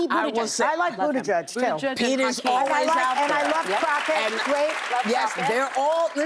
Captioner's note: applause